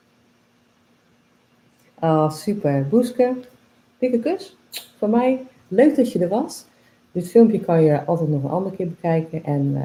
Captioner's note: kiss sound